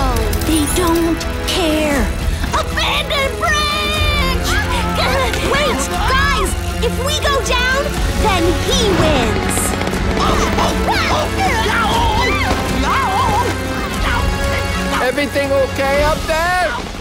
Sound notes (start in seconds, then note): 10.2 yelling